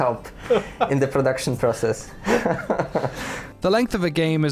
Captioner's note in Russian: смеется